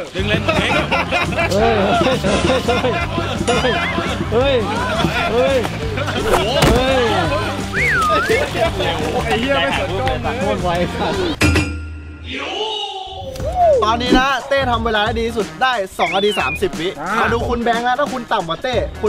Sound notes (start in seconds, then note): 2.4 laughs; 4.0 cheering; 7.6 cheering continues